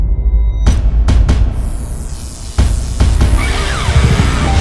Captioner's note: dramatic drumbeat; electric crackling; dramatic rock music